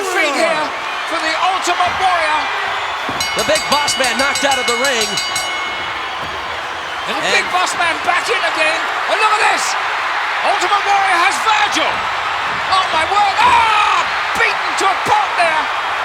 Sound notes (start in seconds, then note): 2.4 bell ringing; 11.8 audience cheering; 15.8 audience cheering